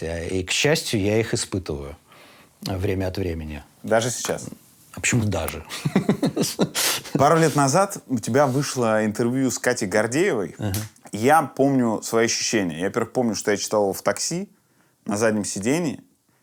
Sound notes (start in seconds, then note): 5.6 laughs